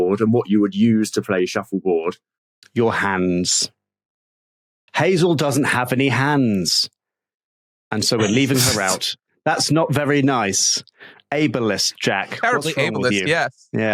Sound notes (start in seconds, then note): 9.1 snickers